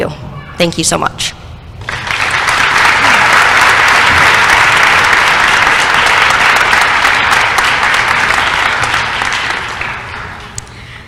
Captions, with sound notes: Thank you so much. [applause]